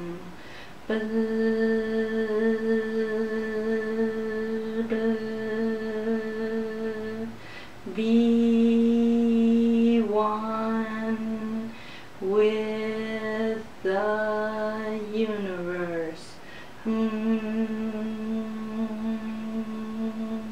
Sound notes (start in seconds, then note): 0.8 humming sounds; 0.9 buzzing sounds; 7.8 humming sounds; 9.0 buzzing sounds; 11.0 humming sounds